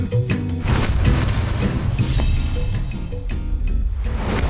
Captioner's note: whoosh; knife swish; whoosh